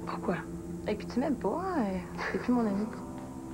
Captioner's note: Il rit